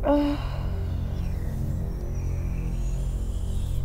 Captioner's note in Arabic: تتنهد